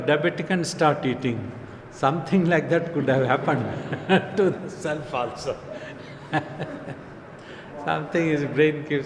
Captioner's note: laughs